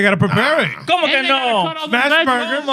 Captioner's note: speaking In Foreign Language